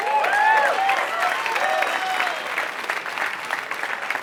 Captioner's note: applause